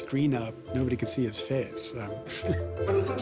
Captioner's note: chuckles